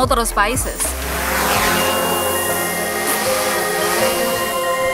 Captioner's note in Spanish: Edit: Suenan muy fuertes los motores del dron